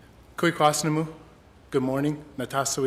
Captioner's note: speaking Indigenous language